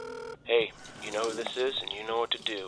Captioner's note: Ben Over Answering Machine